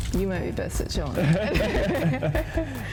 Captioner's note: both laugh